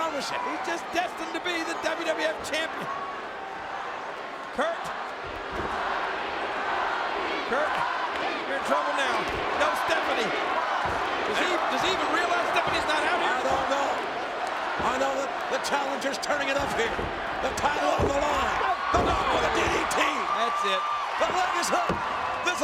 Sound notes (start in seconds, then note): 5.5 crowd chants "Rocky"